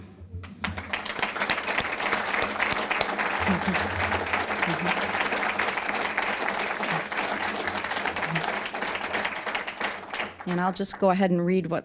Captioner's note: applause